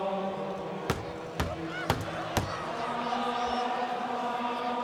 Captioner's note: kicks thudding